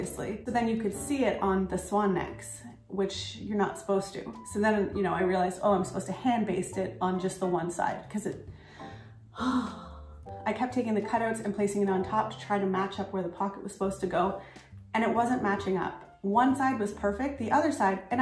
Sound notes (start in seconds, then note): 9.3 le Deep Sigh